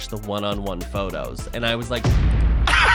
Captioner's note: boom; laughs